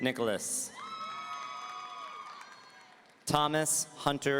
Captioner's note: audience cheering